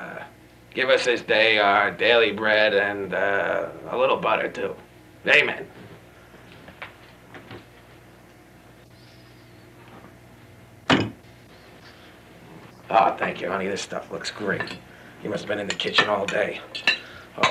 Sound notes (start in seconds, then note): 10.9 thud